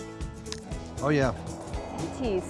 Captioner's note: crunch